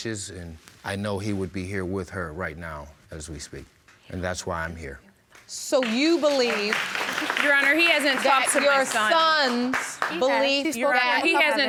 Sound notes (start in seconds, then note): 5.7 audience applauding